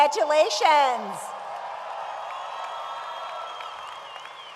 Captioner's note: audience applauds